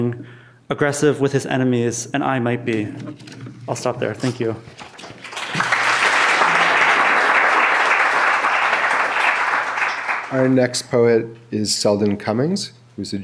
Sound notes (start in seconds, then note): 5.0 clapping